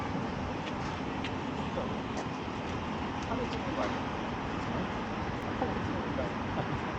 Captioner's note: chit chatting